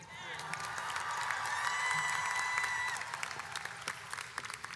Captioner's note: audience cheers